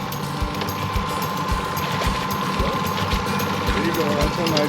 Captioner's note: fish splashing